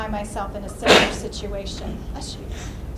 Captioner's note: sneezes